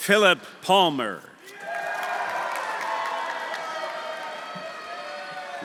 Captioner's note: audience cheering; audience applauding